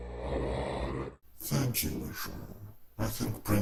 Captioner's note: demonic, Distorted Voice